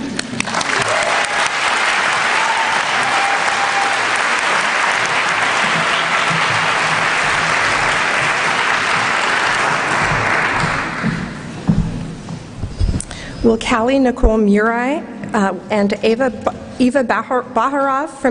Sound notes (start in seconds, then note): 0.1 applause